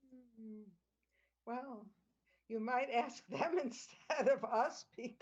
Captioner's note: laughter